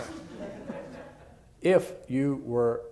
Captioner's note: laughter